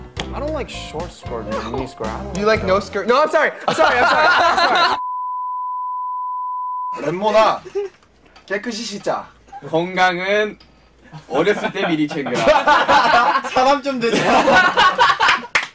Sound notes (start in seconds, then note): 3.6 laugh; 11.1 laugh